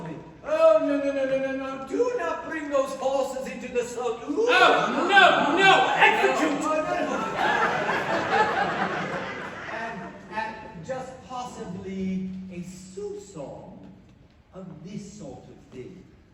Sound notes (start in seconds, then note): 5.7 GIUSEPPE shouts; 6.2 laughter